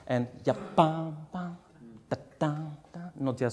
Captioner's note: hums